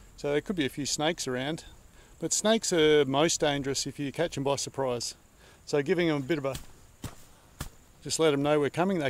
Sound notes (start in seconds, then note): 6.9 feet stamp